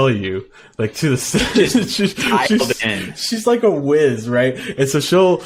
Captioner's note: laughing